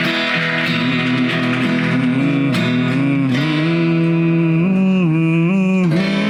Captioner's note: humming